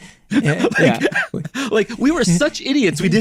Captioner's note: both laughing